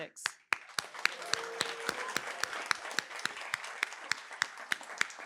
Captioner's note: applause